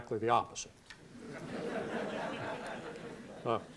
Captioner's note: laughter